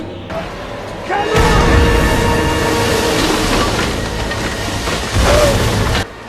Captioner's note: explosion